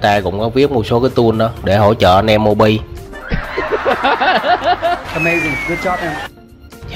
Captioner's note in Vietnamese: Tiếng cười